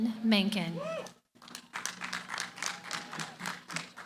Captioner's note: applause